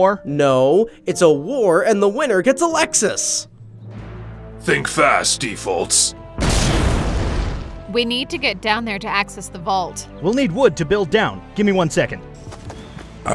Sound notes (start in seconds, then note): 3.7 upbeat tense music; 6.3 explosion booming